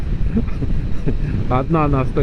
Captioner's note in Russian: смех